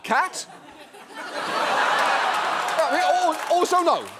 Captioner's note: audience laughs